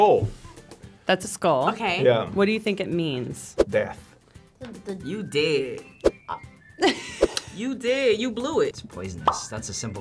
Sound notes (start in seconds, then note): 6.8 laughs; 9.4 bubble pops